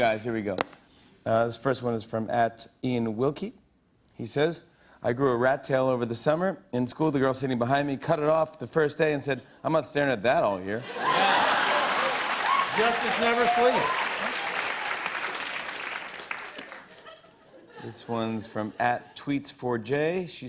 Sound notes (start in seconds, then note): 13.8 laughter and applause